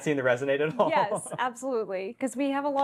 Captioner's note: laughs